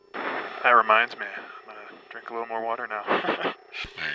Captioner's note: laughs